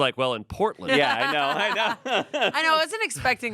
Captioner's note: laughs